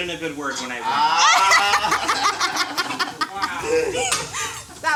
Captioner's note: laughs